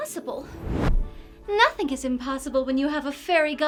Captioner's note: magical music; air whooshing